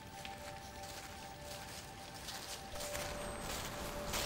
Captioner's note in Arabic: خطوات عبر الأوراق المقرمشة